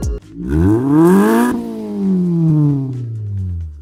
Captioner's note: engine revs